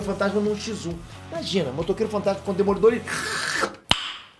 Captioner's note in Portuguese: sluuurp